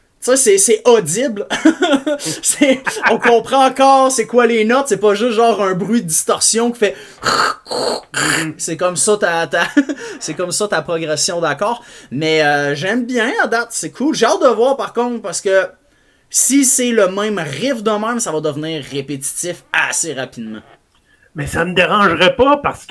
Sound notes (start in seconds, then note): 9.8 distortion noises